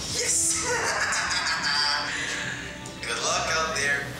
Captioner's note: maniacal laugh